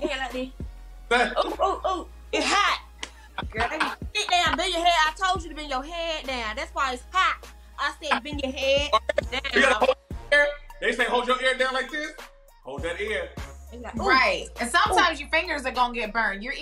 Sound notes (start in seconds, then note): 1.2 laughs; 3.2 laughs